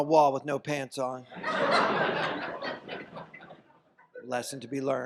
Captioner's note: audience laughs